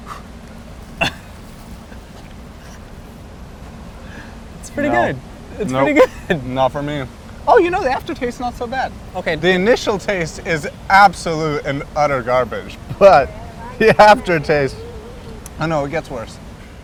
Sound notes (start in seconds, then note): 1.0 huffing; 1.0 chuckling